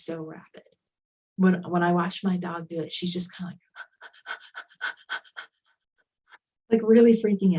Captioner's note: panting